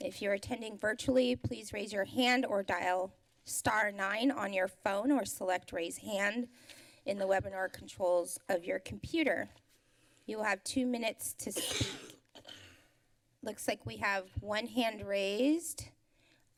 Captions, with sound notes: If you're attending virtually, please raise your hand or dial *9 on your phone or select raise hand in the webinar controls of your computer. You'll have two minutes to speak... [coughs] Looks like we have one hand raised.